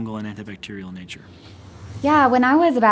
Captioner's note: whooshing